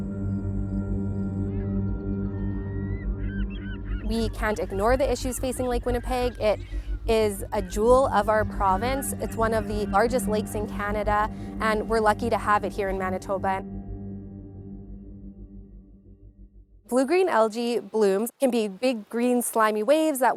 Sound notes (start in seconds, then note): 1.8 birds calling